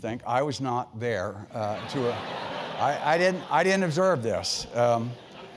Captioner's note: laugh